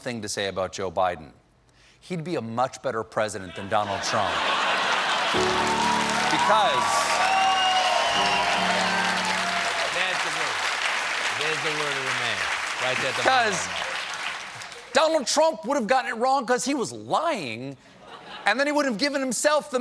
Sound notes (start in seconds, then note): 4.8 applause